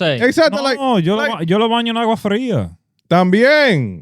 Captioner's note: speaking In Foreign Language